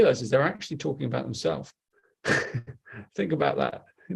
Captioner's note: laughs